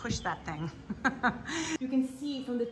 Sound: woman laughs

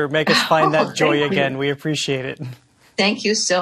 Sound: laughing

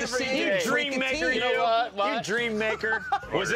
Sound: laughs

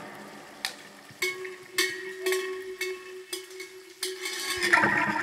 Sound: bell ringing

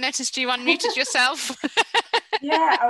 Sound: both chuckling

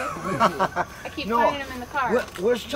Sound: laughing

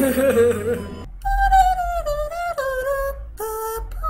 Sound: humming the game over theme

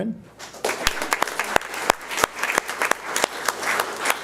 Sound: audience applauds

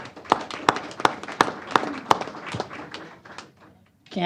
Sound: applause

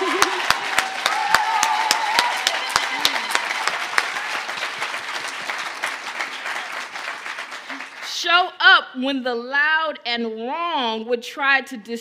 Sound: cheers and applause

